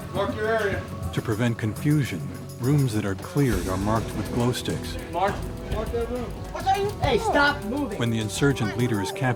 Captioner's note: voiceover